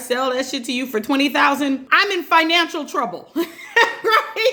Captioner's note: laughs